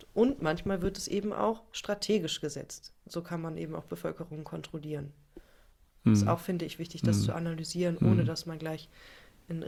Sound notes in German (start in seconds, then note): 8.0 räuspern